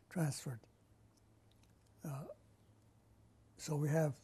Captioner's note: pauses for 3 seconds